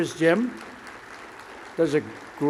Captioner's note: applause